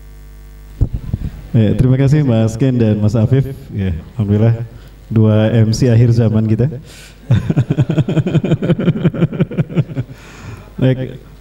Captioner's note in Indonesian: Tertawa